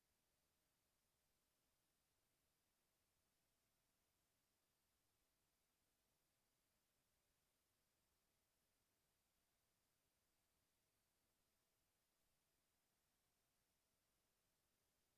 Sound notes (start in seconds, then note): none